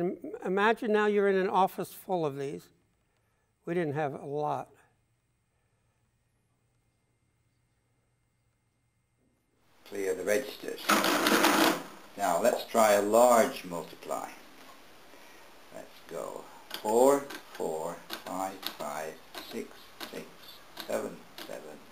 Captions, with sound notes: Imagine now you're in an office full of these, we didn't have a lot. - [Voiceover] Clear the registers. (loud clacking noise) Now let's try a large multiply. Let's go Four, four. (keys clacking) Five, five. Six, six. Seven, seven.